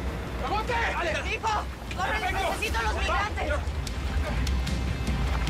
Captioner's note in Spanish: Hablan al unísono